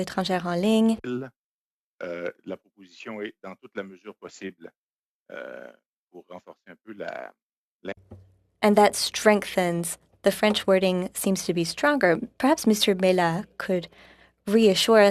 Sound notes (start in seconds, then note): 4.0 speaking French